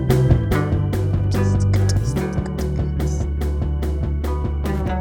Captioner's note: beatboxing